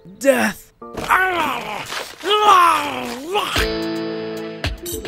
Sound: munching; upbeat rock music

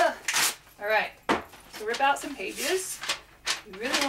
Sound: pages turning and more sad ripping

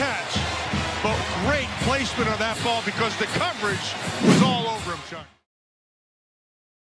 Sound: woosh

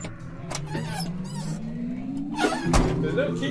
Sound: car door opening sound

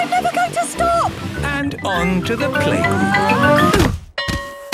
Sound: exclaiming and grunting; bell ringing

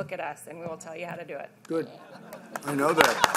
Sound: laughter and Applause

